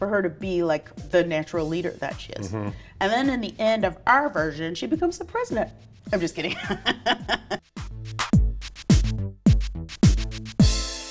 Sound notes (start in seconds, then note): 6.5 laughs; 8.4 upbeat music